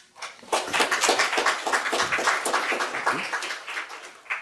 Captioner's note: audience applause